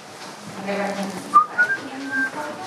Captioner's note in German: Pfeifen